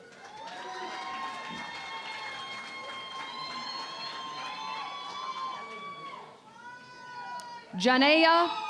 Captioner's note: cheering and Applause